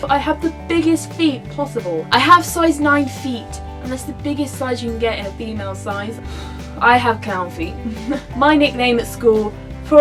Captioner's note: laughs